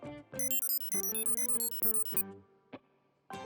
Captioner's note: beeping